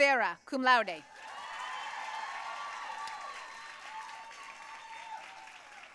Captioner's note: audience cheering and applauding